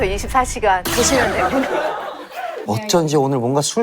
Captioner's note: shocked